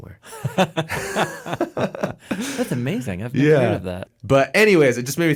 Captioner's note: laughs